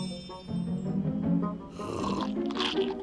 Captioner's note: sucking; crunching